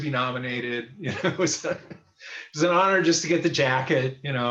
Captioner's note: laughs